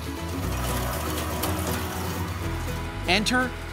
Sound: tractor noise

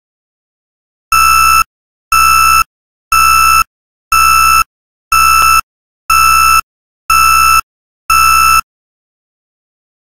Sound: sound of warning alarm

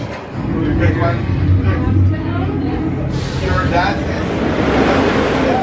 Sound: people conversing softly; rollercoaster whirring; crowd whooping

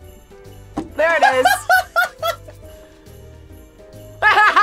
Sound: laughs; both laugh

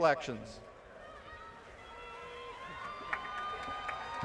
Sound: applause

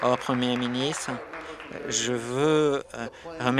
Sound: applause

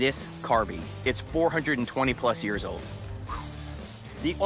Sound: exhales

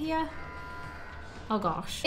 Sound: alarm buzzes

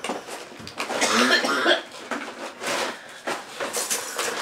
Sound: heavy coughing

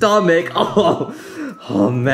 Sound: laughing

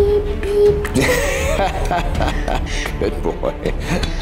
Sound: father laughs

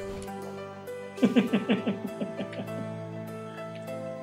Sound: laughs

